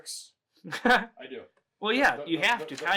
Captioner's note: chuckles